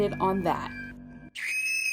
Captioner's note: high pitched scream